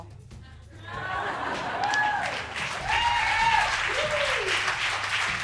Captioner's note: crowd laughs and cheers